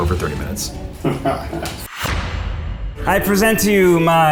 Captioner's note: man laughs